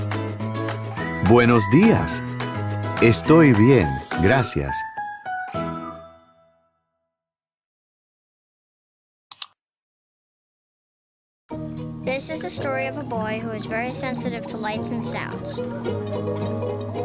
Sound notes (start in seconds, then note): 1.5 speaking in foreign language